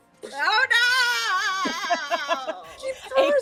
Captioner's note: laughing